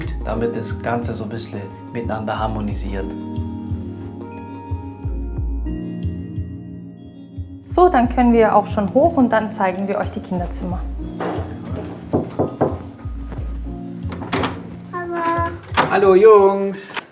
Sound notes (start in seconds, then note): 3.6 dreamy music; 11.1 knock